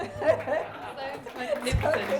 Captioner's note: applause